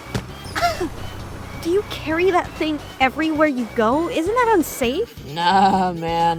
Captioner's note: cough